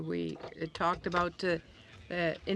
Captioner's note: speaking in French